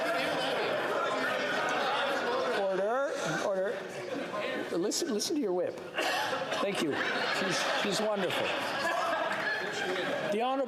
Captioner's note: yelling